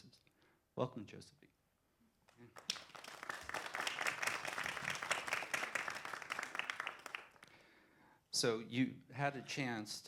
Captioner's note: applause